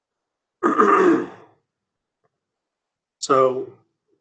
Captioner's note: clears throat